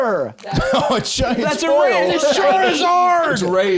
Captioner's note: laughs